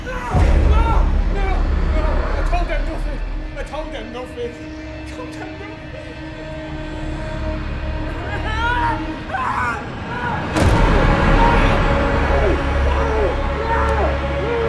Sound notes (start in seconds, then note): 8.3 ominous music; 8.4 Crimms screaming